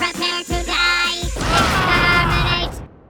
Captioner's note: explosion; screams